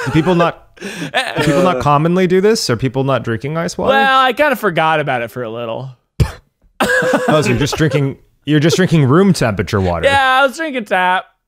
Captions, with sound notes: - Do people not…do people not commonly do this? Are people not drinking iced water? - Well, I kinda forgot about it for a little. (laughing) - Oh, so you were just drinking room-temperature water. - Yeah, I was drinking tap.